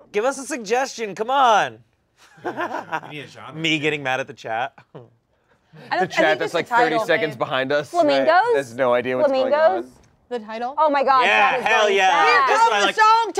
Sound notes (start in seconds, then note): 2.4 laughing